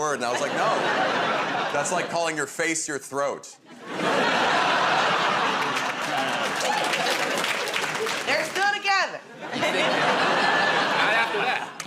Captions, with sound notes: And I was like, "No." That's like calling your face your throat. [ Laughter ] -They're still together. -Not after that.